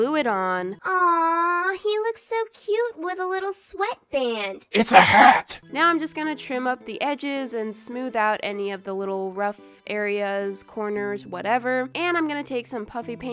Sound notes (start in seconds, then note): 4.4 demented voice